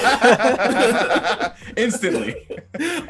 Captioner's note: laughing